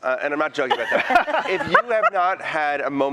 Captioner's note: laughter